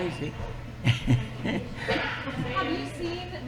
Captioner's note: laughs